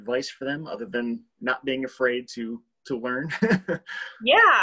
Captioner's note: laughs